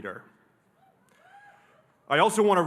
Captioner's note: audience cheering